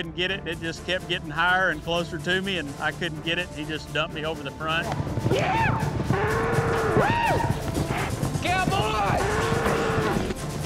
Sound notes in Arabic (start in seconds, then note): 6.1 صراخ